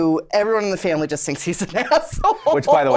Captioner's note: laughs